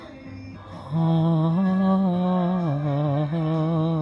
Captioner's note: humming